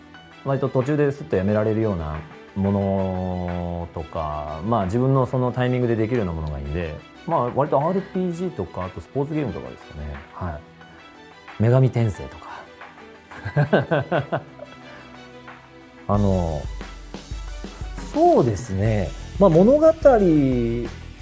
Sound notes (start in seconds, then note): 13.4 laughs